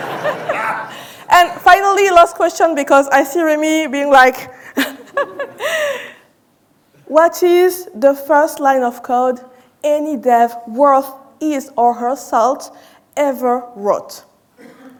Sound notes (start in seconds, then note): 0.0 audience laughing; 4.7 laughs